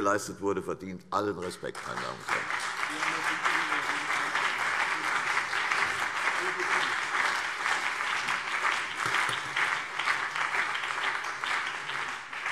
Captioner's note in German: Beifall CDU und BÜNDNIS 90/DIE GRÜNEN